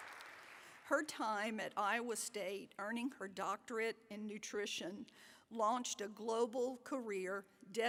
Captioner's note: applause